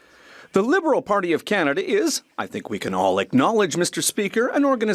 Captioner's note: speaking French